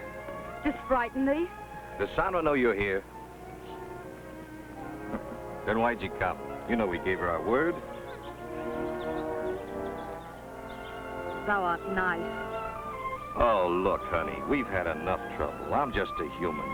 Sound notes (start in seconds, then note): 5.0 chuckles; 8.8 gentle music